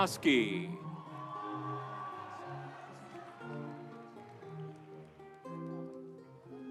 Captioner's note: audience cheering; instrumental music